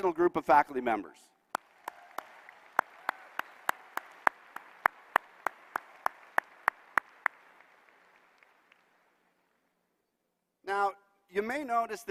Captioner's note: applause